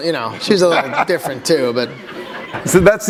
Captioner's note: laughter